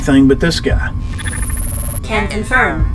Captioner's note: static buzzing